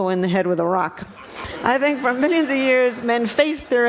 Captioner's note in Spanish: risas